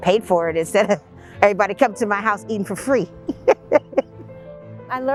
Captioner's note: laughs